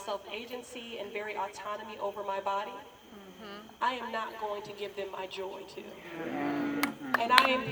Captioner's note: murmurs of agreement